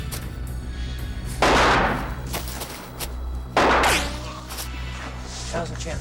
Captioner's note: gunshot booming